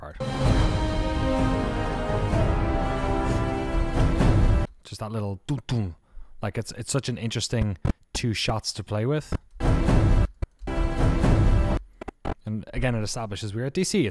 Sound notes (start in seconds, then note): 0.2 music swells; 5.6 imitates music; 10.4 music swells